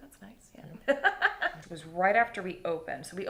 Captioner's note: laughing